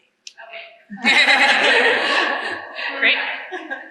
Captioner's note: laughter